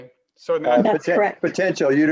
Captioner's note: overlapping chatter